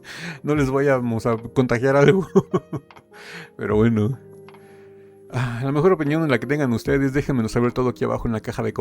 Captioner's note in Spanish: risas